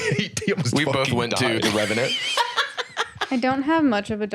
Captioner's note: laughs